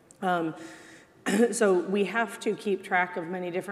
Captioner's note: clears throat